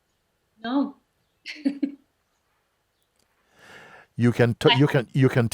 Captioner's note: laughs